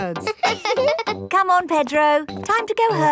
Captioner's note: both laughing; chuckles